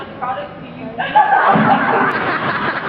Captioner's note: laughs